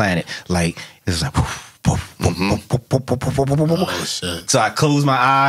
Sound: bubbles

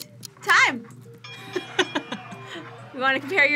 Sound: bell rings

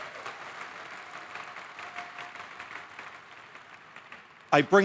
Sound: applause

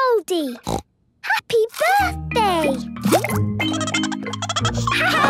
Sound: snorting; Goldie giggling

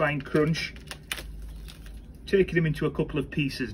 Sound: Tulbaghias crunching

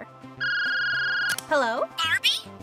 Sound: phone rings

